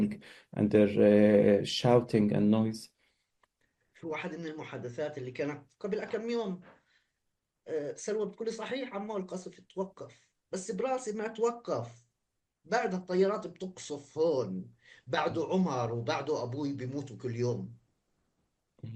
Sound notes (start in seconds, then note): 3.7 speaking arabic